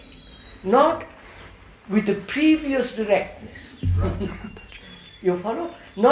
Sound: laughs

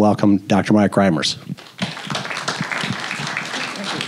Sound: applause

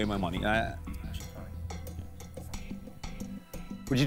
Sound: whispering

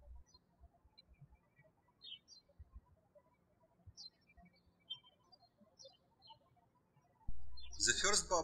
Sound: birds chirping

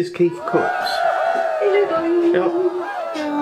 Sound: cheerin

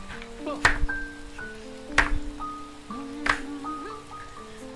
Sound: slapping Desk

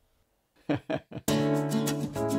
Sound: chuckles

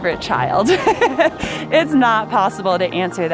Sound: laughs

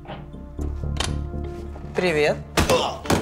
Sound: door clicks open

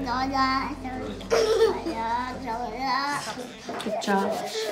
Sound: children talking and laughing

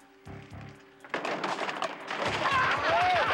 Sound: pipes banging; Pop and Sid laughing

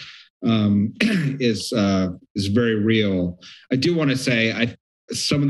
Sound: throat clearing

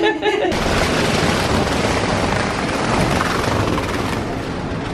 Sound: laughing; suitcase dragging

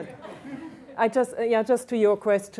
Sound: laughter

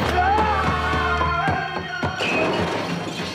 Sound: breaking glass

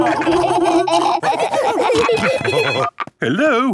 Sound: laughing; phone ringing

